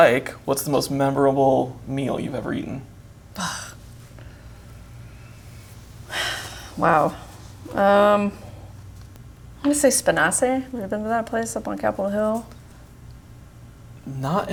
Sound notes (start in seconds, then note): 3.3 sighs